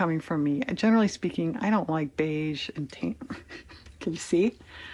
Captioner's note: laughs